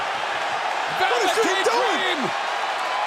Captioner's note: cheers and applause